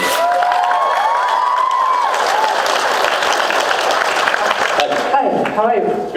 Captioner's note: cheers, applauds